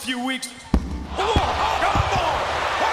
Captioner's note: microphone thumps